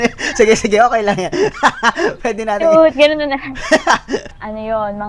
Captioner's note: laughs